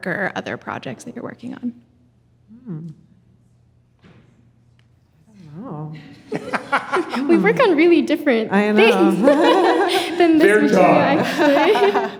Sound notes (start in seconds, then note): 6.2 audience chuckling; 8.8 chuckles